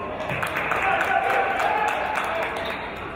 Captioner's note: applause